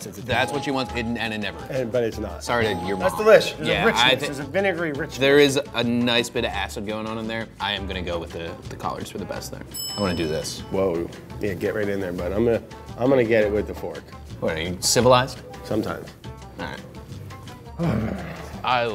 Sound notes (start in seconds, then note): 9.7 bell dings; 17.8 both sigh